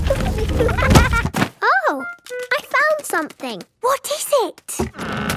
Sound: thuds

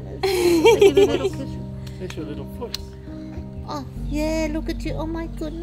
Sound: laughs

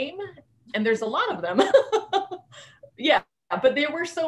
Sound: laughing

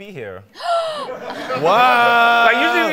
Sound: gasping

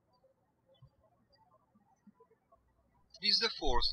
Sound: birds chirping

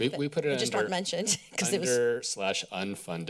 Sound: laughter

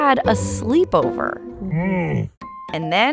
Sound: Camelot grunting

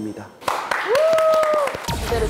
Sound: clap clap clap clap

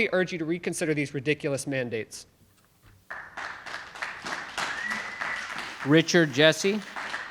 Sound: audience applauding

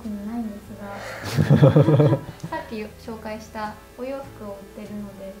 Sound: laughter

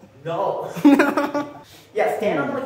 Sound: terrible laugh

